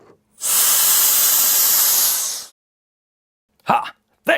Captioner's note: blower whirring